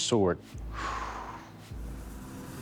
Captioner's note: sigh